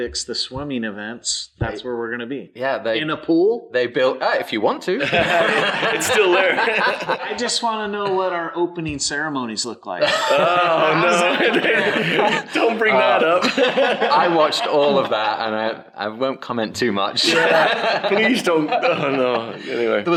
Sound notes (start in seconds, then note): 5.0 everyone laughs; 10.0 laughs; 17.2 everyone laughs